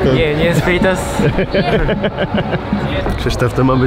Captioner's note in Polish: Śmiech